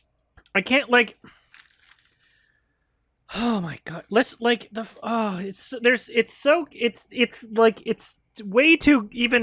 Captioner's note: lots of stammering